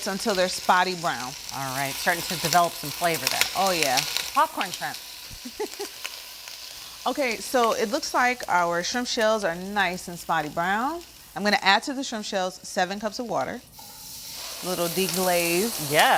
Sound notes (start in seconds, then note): 5.4 chuckles